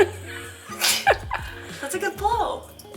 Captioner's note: laughing